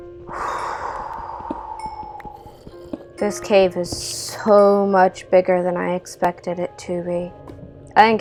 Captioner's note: deep breath